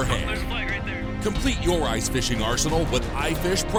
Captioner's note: voiceover